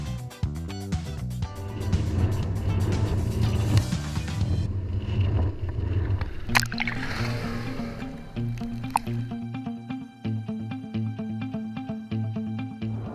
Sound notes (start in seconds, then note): 3.0 engine rumbling